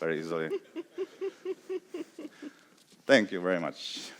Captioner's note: laughs